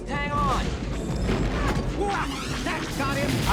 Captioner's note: explosions